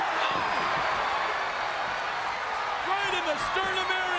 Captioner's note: crowd cheers